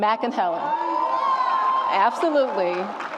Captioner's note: audience applauds and cheers